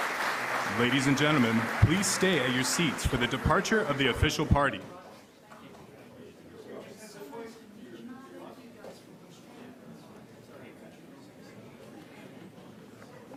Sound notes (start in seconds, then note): 7.9 audience conversing